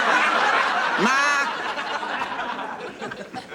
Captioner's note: audience laughing